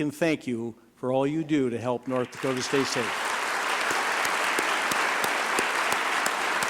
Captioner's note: applause